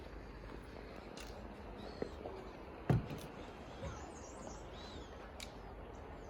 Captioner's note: birds chirping/footsteps on wooden porch